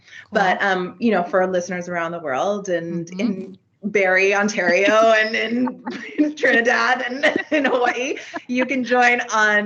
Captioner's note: both giggling